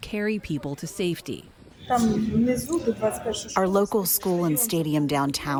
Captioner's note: through translator